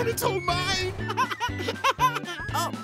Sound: laughing

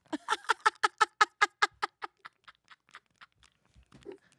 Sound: laughs

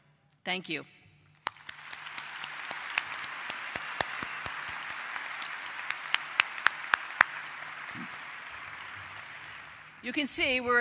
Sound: applause

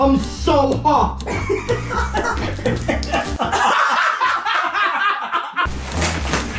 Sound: laughing

